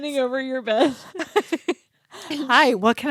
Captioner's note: both laughing